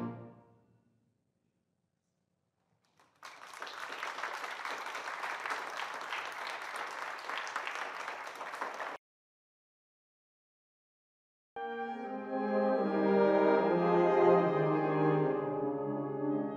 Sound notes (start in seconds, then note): 2.8 applause; 11.6 orchestral music plays